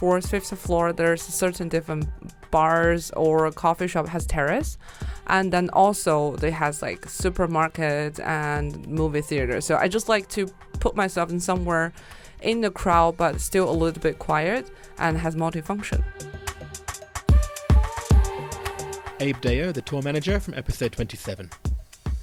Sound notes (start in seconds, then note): 16.0 voiceover